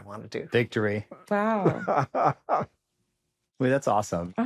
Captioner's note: laughs